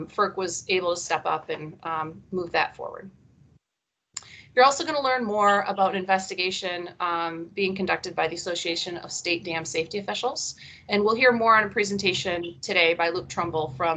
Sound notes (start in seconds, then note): none